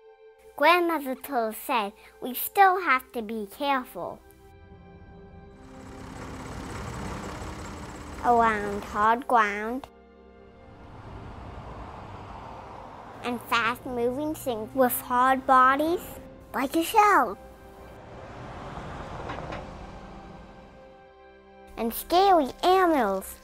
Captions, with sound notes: Grandmother turtle said we still have to be careful. (sound of construction vehicles) around hard ground (sound of cars on the road) And fast moving things with hard bodies like a shell. And scary animals